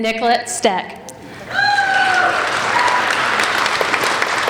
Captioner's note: applauding